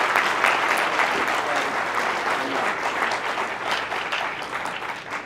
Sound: applause

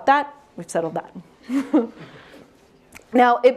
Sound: chuckles

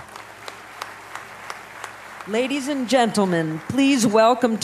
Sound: applause

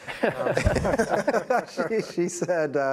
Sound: laughter

